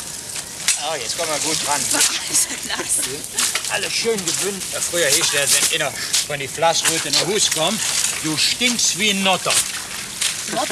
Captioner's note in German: Arbeitsgeräusche